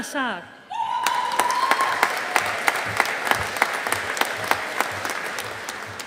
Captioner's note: audience applauding